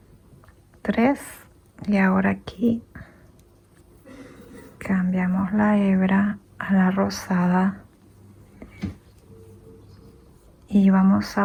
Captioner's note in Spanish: carraspeo